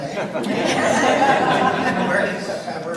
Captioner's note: audience laughs